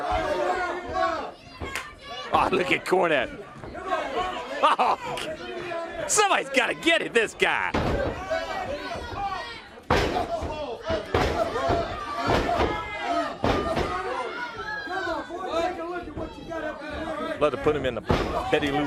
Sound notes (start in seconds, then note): 8.5 crowd chatter